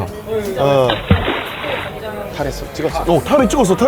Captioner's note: splash